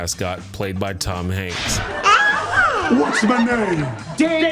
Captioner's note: baby cooing